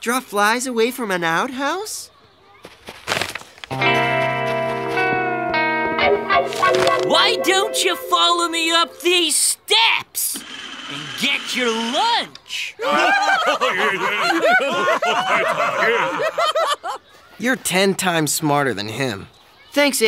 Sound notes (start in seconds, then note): 12.8 laughing